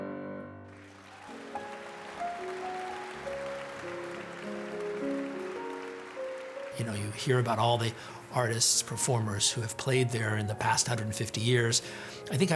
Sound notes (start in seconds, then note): 0.6 audience applauding